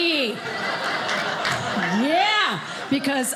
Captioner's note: audience laughing